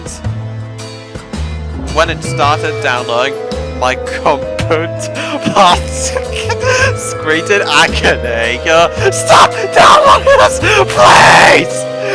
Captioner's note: cracks up laughing again